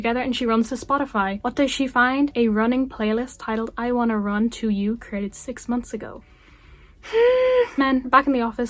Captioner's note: deep breath